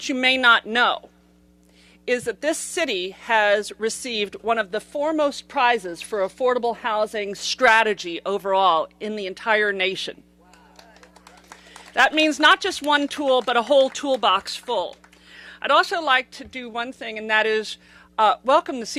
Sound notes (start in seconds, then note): 10.5 applause